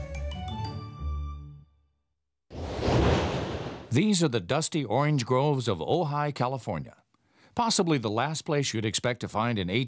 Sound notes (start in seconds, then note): 2.5 quick whooshing of air